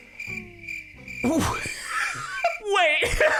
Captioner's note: laughs